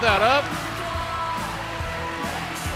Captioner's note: bell ringing